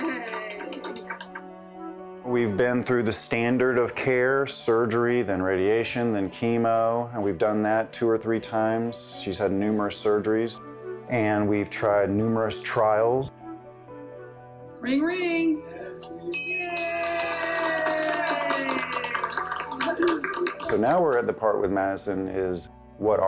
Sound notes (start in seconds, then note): 0.0 hospital staff applauding; 15.8 bell ringing; 16.6 hospital staff applauding